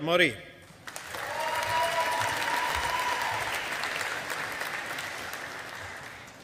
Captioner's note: audience applauding